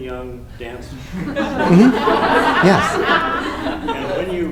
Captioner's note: laughter